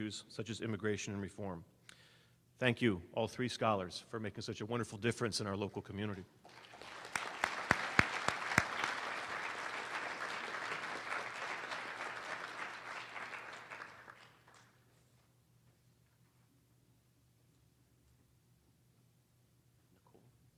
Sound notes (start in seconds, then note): 6.4 applause